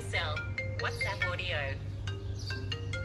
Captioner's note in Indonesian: handphone berdering